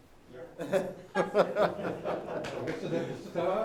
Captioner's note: laughing